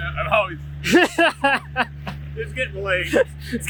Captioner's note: man laughing